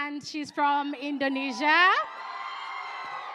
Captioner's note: cheering